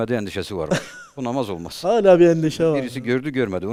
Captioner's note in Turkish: kahkaha